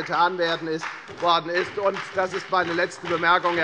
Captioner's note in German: Beifall bei der FDP und der SPD